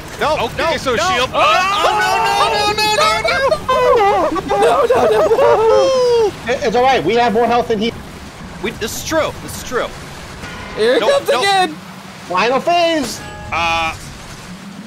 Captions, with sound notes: No! No! No! Ok, so shields... No! No! No! No! No! *mass panicking* It's all right, we have more health than he does! This is true! Here he comes again! Final phase! Uhh...